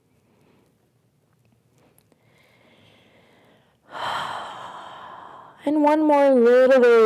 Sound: deep breath

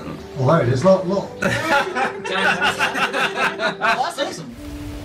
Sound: laughter

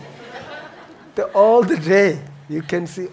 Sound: audience laughing

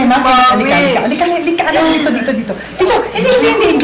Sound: grunting

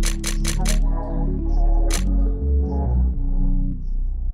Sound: camera clicking

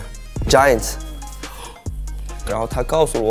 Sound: gasp

